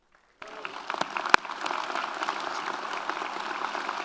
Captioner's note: audience applauds